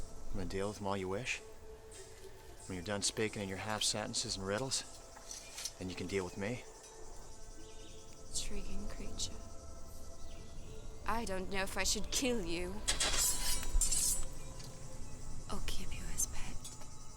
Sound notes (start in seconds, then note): none